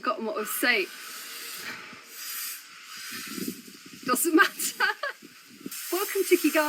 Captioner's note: buzzing